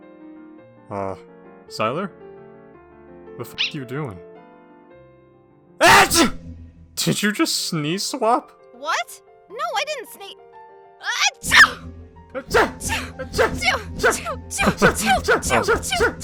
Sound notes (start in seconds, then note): 5.8 sneeze; 11.4 continued sneezing; 11.4 sneeze